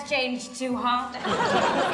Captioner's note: audience laughs